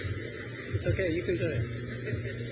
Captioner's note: crowd cheers; trustee laughs